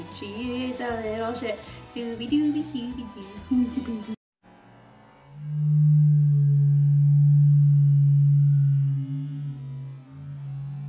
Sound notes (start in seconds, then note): 1.9 imitating playful music; 4.5 dramatic ominous music